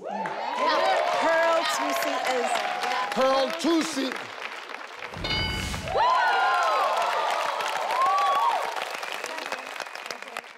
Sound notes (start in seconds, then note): 0.1 audience cheers; 5.2 screen dings; 6.1 audience cheers